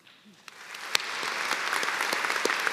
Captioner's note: applause